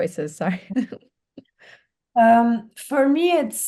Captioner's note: laughing